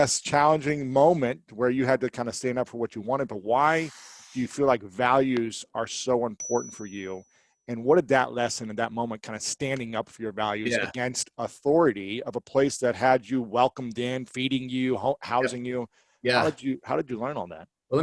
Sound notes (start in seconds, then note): 6.4 bell rings